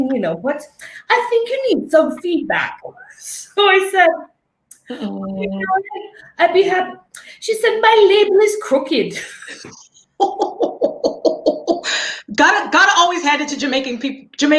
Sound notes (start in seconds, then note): 9.1 laughing